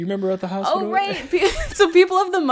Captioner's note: laughs